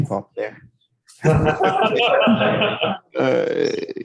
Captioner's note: laughing